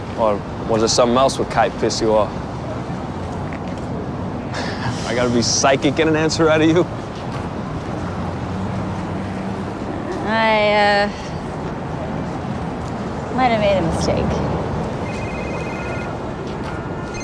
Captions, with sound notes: Or was it something else with Kite pissed you off? I gotta be psychic to get an answer out of you? I, uh. ...might have made a mistake. [cellphone ringing]